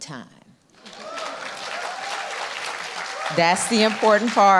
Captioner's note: audience clapping and cheering